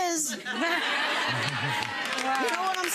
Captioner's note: audience laughs